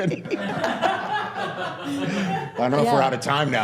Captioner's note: all laughing